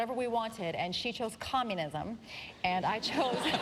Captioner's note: laughter